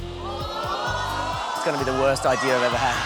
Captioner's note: audience exclaims